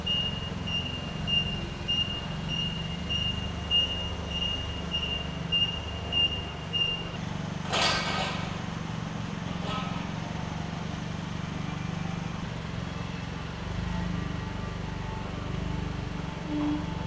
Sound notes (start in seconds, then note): 8.1 clattering, motor humming